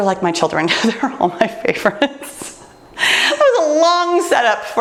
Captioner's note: laughing